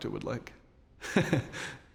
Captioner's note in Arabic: ضحكة خافتة